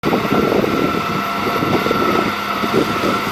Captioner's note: tractor Noises